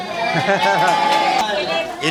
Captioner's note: haha